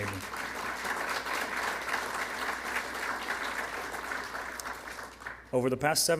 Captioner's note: applause